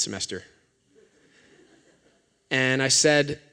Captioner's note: laughter